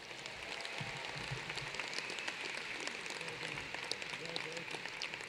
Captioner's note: applause